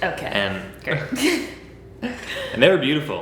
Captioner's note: laughing